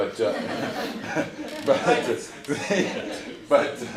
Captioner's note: laughing